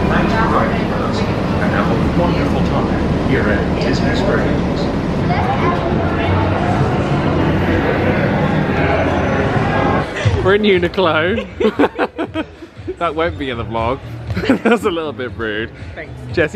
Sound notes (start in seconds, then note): 12.0 laugh